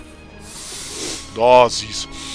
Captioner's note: sniff; sniffles